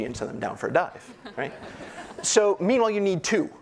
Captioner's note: audience laughing